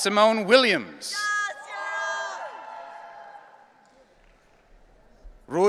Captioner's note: audience cheering